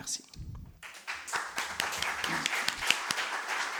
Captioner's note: applause